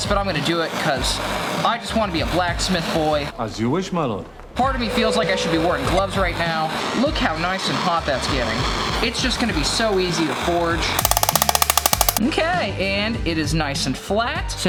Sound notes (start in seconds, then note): 11.0 hammer clanging